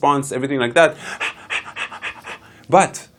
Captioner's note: rapid breathing